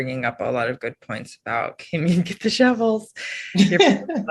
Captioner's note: chuckles; panelists chuckling